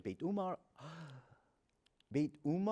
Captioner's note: gasps